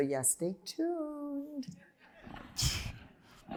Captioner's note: laughter